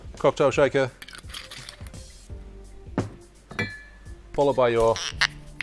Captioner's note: lid twists; lid squeaks and pops